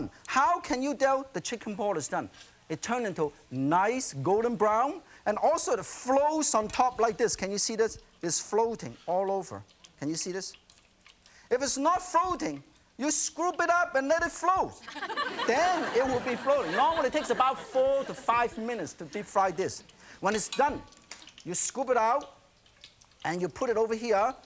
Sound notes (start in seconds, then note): 14.8 laughter